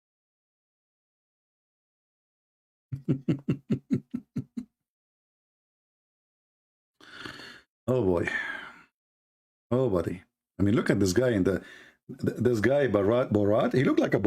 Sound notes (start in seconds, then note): 2.9 Ketawa